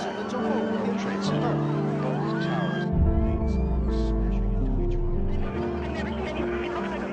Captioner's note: people screaming; tense music